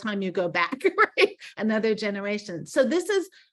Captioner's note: laughing